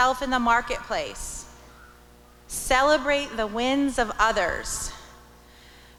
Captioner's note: none